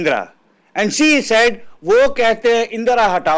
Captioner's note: speaks Hindi